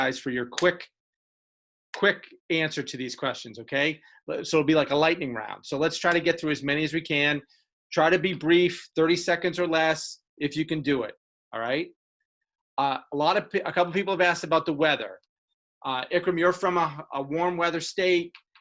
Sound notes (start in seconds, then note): none